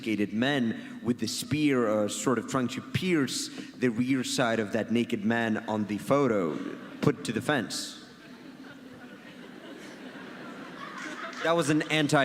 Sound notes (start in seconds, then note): 4.2 audience laughs; 8.1 audience laughs